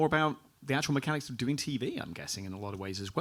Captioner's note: none